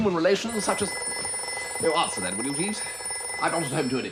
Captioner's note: telephone rings